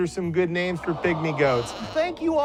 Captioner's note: goats bleating